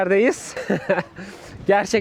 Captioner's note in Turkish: kahkaha